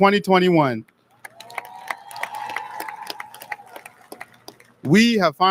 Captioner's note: audience lauds